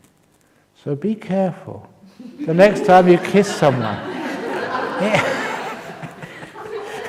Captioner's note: laughter